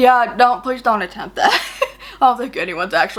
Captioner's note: laughs